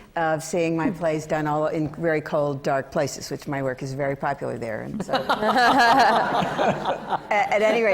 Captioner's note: laughter